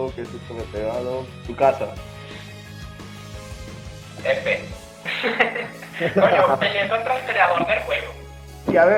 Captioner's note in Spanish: Risas